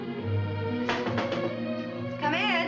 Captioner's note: knuckles rap